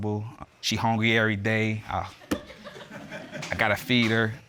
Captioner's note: audience laughing